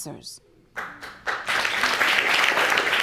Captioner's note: audience applauding